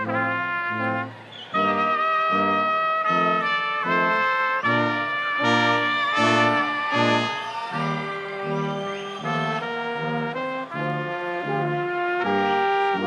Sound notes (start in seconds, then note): 7.6 crowd cheering